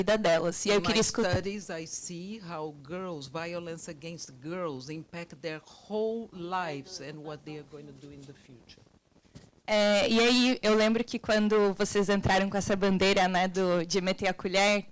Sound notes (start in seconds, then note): 9.9 woman speaking Portuguese